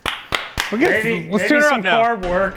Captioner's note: hands clapping